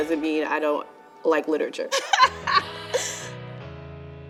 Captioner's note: laughing; gentle music